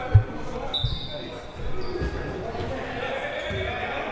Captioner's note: whistle